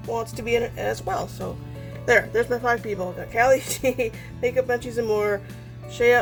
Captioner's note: laughs